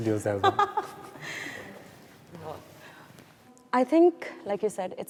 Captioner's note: chuckles